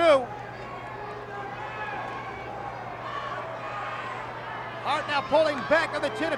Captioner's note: applause